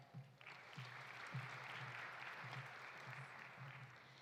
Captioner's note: audience applauding